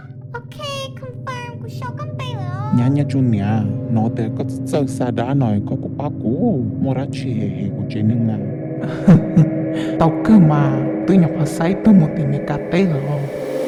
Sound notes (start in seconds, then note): 8.8 laugh